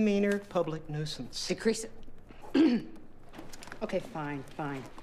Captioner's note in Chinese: 咳咳